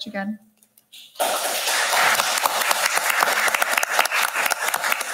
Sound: audience applauding

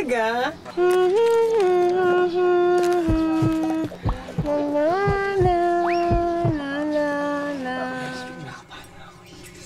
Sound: hums a melody

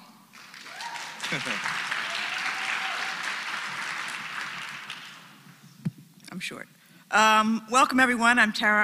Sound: applause

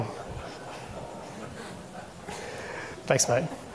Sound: people chuckle

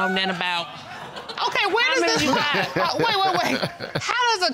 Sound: laughing

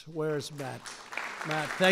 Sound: applause

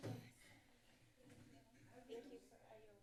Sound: background chatter

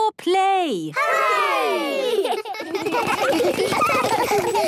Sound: laughter

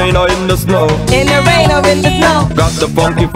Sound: beeps

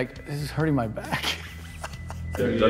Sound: laughs

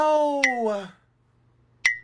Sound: blink sound effect; blink sound effect x2

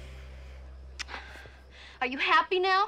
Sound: lips smacking

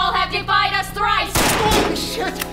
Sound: gunshot

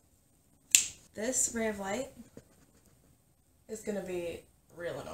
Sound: claps and snaps

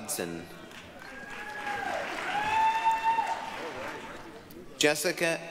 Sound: applause, cheering

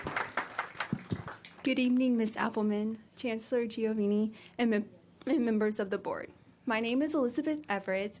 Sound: applause

